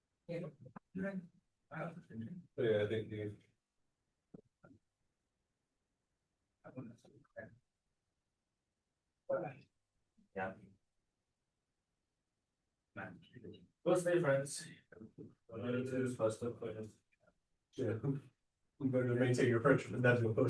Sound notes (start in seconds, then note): 1.8 speaking Mandarin; 6.8 speaking Malay; 9.4 speaking Malay; 13.1 speaking Malay